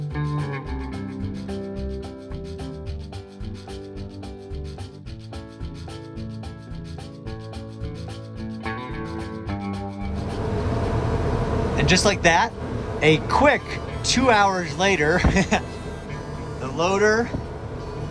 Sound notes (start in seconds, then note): 10.1 backhoe rumbling; 15.1 chuckling